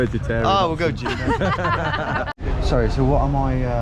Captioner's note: laughter